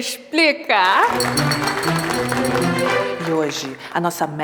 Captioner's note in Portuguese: aplausos